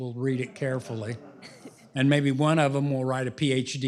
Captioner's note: laughter